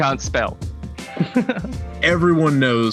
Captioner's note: laughs